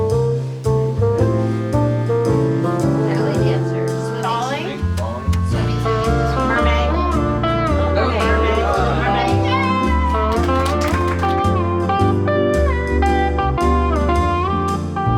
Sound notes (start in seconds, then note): 9.7 clapping; 11.7 cheery music